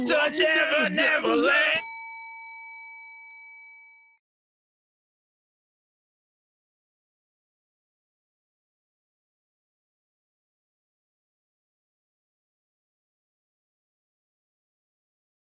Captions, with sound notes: (SINGING) Walk to never-never land. [BELL DINGS]